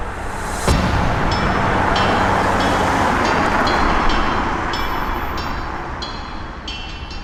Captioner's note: engine roaring; suspenseful music